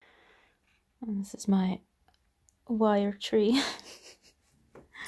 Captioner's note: laughs